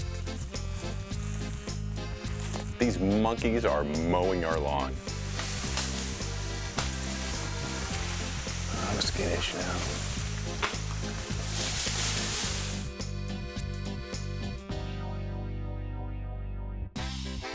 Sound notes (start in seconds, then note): 6.0 comedic music playing; 8.3 tree leaves rustling; 12.0 leaves rustling; 14.2 comedic music playing